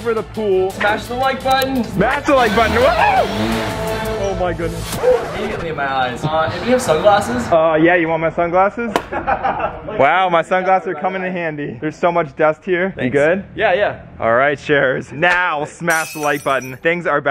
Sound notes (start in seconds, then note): 2.5 people screaming